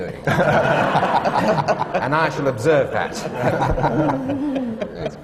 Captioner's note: laughter